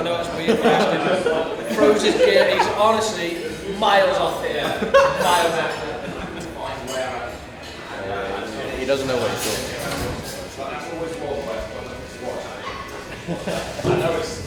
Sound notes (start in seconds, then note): 10.5 indistinct chatter